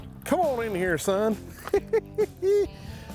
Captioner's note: laughs